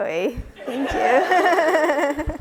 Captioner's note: laughs